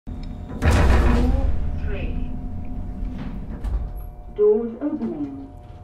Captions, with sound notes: [LIFT STOPS] 'Floor 3' 'Doors opening'